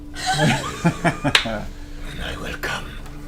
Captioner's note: all laugh